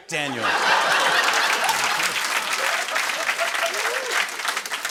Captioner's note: laughter